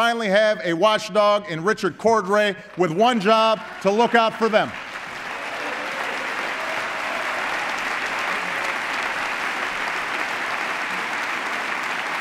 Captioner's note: applause